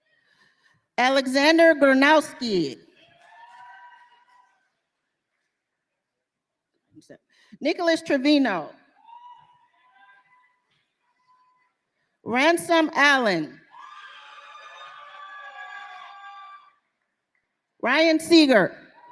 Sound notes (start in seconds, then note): 14.1 applause